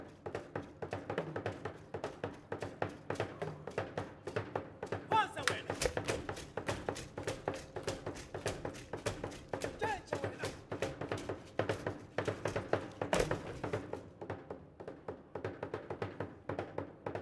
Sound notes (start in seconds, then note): 0.9 drum beating and beads rattling; 5.3 shouting; 6.2 drum beating and beads rattling; 10.1 shouting; 11.0 drum beating and beads rattling; 14.4 drum beating